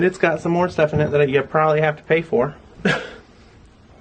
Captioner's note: laugh